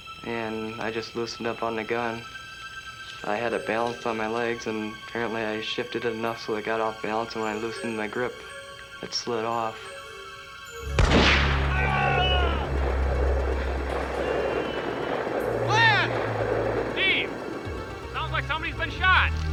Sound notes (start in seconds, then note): 10.9 gunshot; 11.5 scream